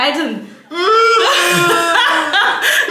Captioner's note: starts crying